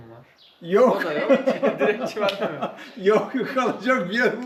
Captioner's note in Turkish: kahkaha